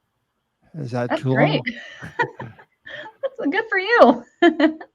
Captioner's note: chuckles; chuckles